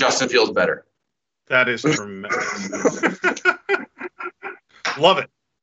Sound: men chuckle

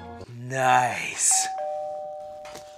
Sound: doorbell rings

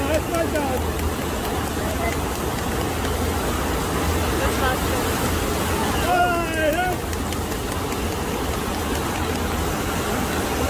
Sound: people Clapping

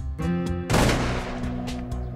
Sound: gunshot

